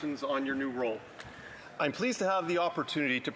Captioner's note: speaking French